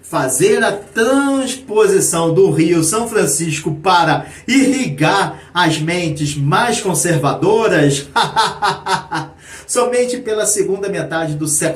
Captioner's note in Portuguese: risadas